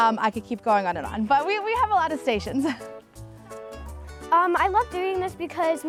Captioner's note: chuckles